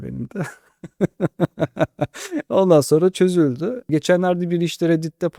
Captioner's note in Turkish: kahkaha